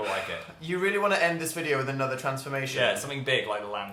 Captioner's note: sigh